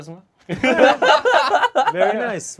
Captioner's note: group laughs